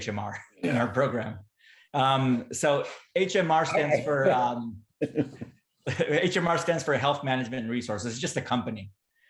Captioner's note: laughter